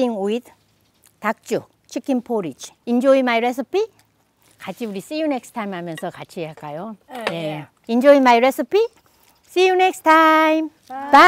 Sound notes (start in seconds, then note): 4.6 speaking foreign language; 6.5 speaking foreign language